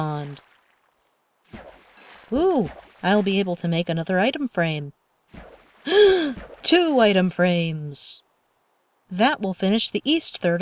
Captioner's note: gasp